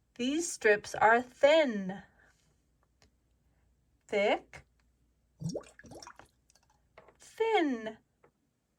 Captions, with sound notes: These strips are thin. Thick. (water gurgles) Thin.